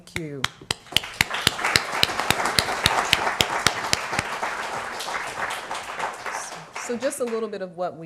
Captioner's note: applause